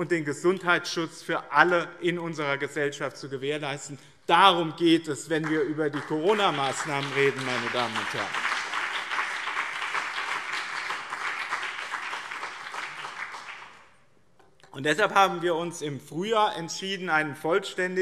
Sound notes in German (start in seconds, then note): 8.9 Beifall BÜNDNIS 90/DIE GRÜNEN und CDU